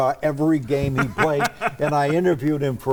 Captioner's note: laughing